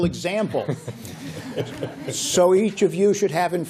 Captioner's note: laughter